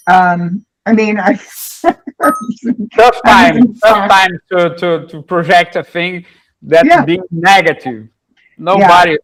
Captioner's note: laughter